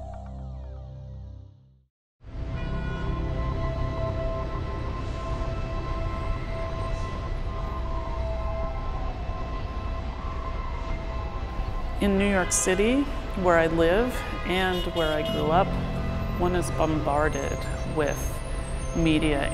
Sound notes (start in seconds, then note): 0.0 electronic music; 1.5 city noises